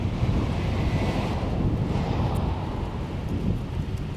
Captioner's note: car whooshing